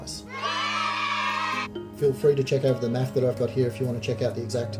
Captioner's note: crowd Cheers